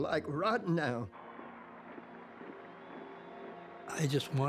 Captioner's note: crowd cheering